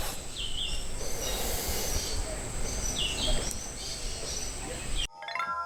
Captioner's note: birds chirping